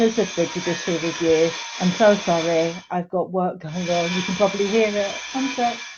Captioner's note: whirring, drilling noise